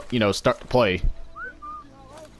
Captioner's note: whistle